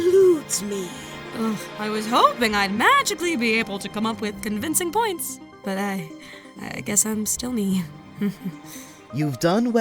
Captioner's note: chuckle